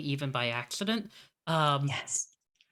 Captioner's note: whispering